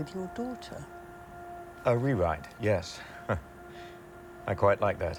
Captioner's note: chuckles